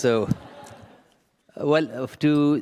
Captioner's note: laughter